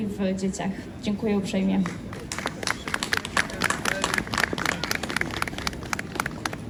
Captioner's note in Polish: Aplauz